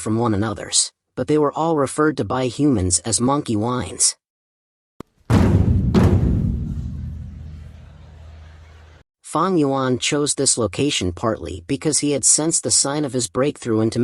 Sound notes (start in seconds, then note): 5.2 sound effect